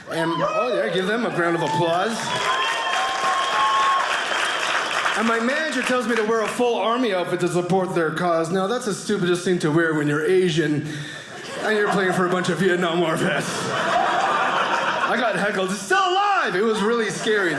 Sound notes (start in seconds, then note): 1.4 audience applauding; 13.7 audience laughing